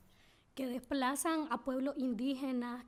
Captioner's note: speaking spanish